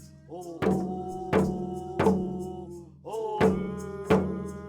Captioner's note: chanting continues